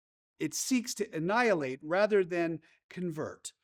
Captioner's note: none